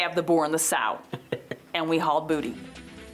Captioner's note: giggling